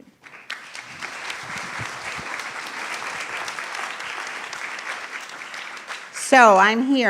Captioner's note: applause